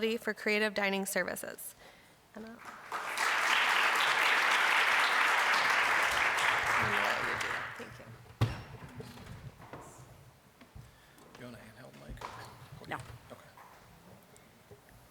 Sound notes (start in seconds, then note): 2.5 applause